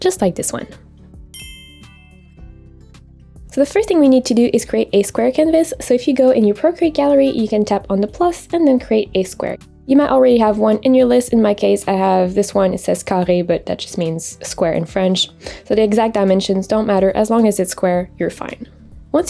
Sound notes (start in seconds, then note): 1.3 upbeat music; 1.3 bell rings